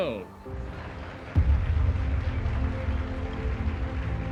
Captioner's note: applause